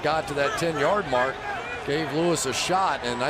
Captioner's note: crowd cheering